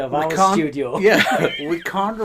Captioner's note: laughing